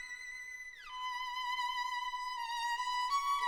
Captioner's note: none